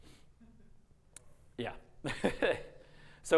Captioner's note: laughing